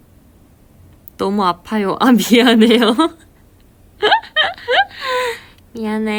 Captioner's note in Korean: 웃음